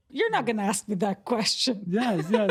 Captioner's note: laughter